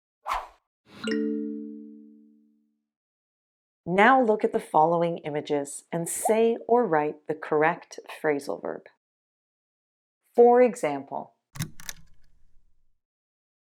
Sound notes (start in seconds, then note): 11.6 click